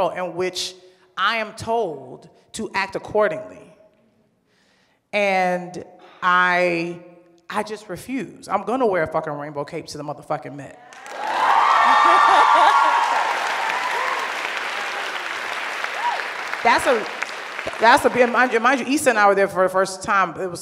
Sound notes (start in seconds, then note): 11.3 cheers and applause; 11.7 laughs